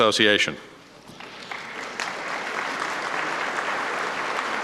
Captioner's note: applause